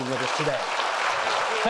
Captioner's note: audience applauding